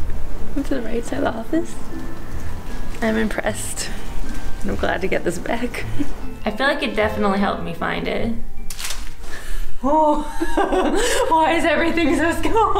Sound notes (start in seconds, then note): 8.7 crunching noise